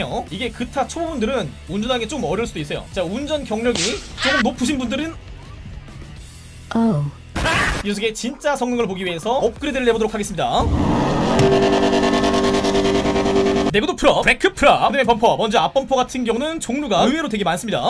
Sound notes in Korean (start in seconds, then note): 10.6 잠깐 배기음 감상